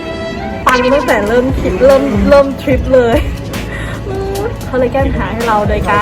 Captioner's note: sarcastically